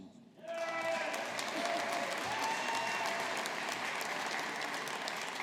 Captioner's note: audience applauding